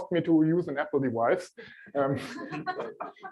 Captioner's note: laughter